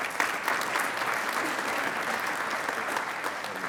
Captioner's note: applauding